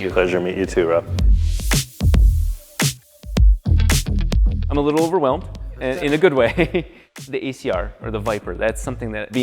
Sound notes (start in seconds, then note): 1.6 mellow music continues; 6.9 laughs